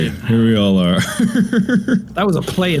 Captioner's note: Mark Laughter